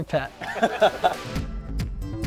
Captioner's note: upbeat music; laughing